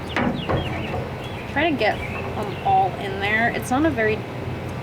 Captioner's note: bottle clanks